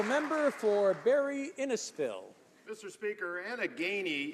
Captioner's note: some Applause